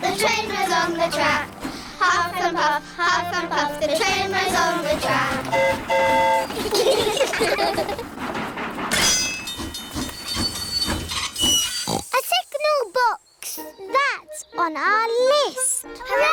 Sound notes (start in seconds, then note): 5.4 train horn toots; 6.4 all giggle; 9.7 tinging; 11.7 oinks